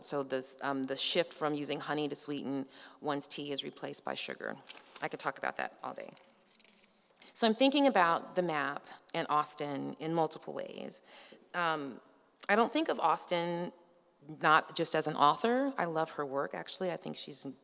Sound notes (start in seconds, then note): none